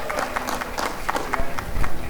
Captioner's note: applause and cheering